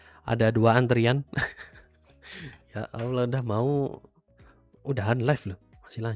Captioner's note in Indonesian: tertawa